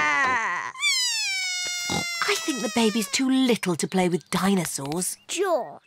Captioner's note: bawls